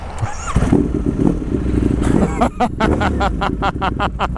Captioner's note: laughing